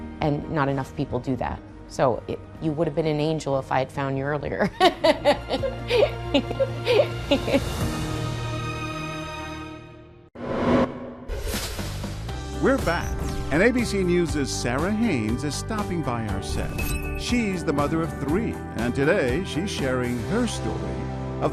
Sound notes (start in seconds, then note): 4.7 laughing; 10.4 air swoosh; 10.6 upbeat music